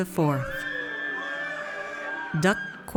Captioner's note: audience cheers